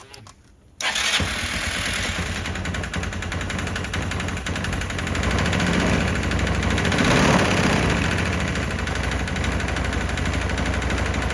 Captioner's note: engine running